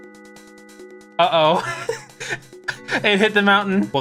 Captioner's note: laughs